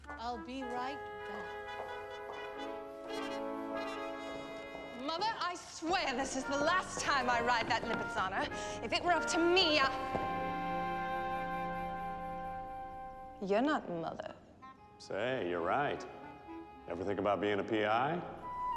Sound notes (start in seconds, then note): 1.2 high heel footsteps depart; 3.6 high heel footsteps approach